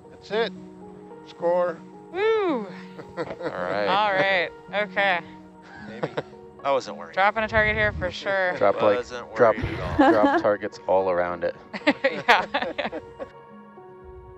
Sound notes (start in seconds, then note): 2.6 laughing; 5.6 laughing; 11.7 laughing